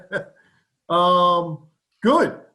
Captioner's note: laughter